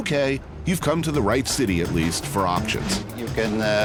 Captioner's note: none